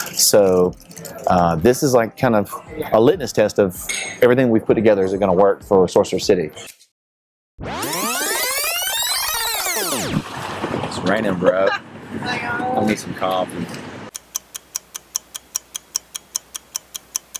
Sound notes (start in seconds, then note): 7.6 video fast rewinds; 11.6 woman laughs; 14.1 clock ticks